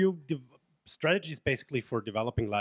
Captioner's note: voiceover